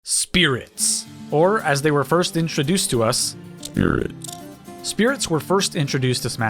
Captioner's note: robotic voice says 'Spirits'